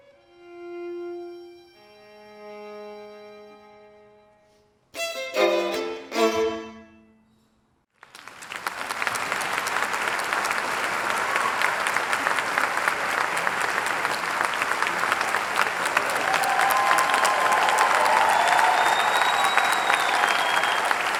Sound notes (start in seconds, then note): 9.5 audience applauding; 18.1 audience cheering